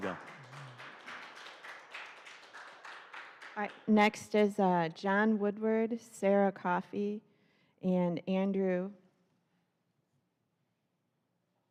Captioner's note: applause